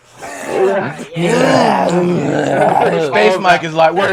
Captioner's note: slurping; grunting